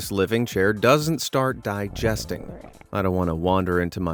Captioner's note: stomach gurgles